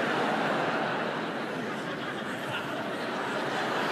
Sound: laughter

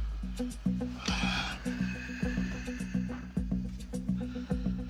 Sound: sighing; tense music

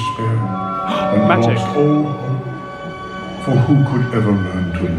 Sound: gasps

